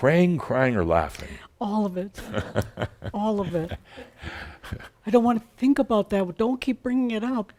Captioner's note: Adamus chuckles